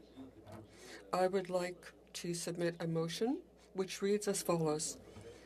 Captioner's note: speaking French